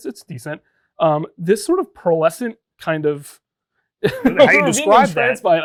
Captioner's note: laughing